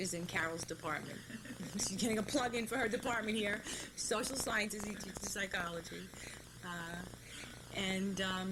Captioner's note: laughter